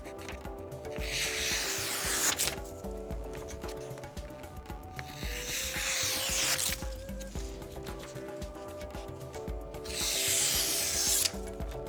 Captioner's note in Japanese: 切り切り音